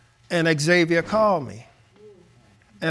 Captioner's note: none